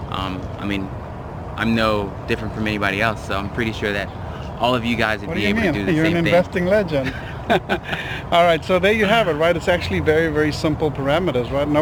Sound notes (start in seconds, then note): 6.9 laughs